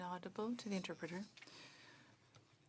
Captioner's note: speaking French